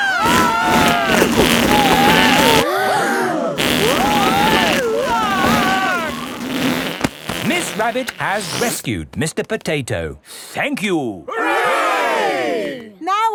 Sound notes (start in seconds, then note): 0.0 both screaming; 3.1 crowd gasps; 4.8 screaming